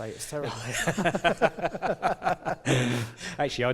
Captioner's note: laughter